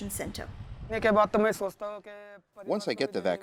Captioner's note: through translator